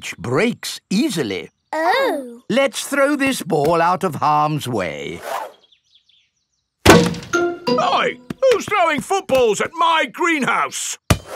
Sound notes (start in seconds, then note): 6.8 thuds